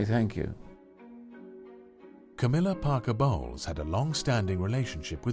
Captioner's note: voiceover